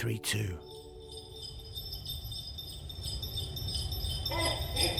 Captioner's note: bells ringing